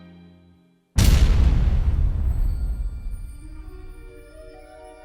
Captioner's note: crashing noise